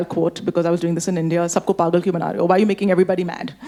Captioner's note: speaking Hindi